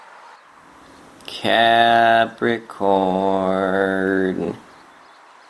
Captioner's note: sing-songy